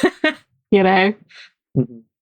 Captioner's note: laughs